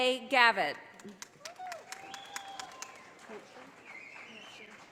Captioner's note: audience applauding